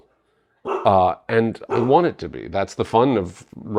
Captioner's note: barking